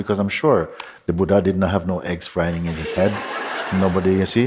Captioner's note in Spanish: Risas